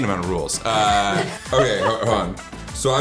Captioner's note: laughs